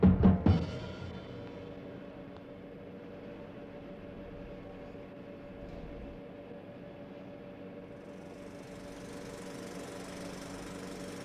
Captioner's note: sounds of a film reel ending